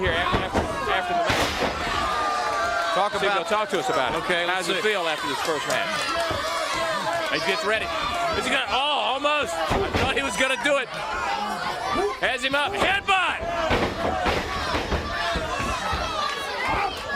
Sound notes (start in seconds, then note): 3.6 crowd cheering